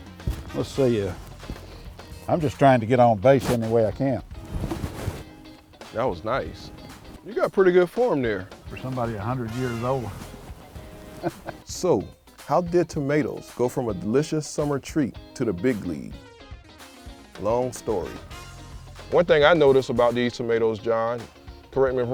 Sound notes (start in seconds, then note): 11.0 laughs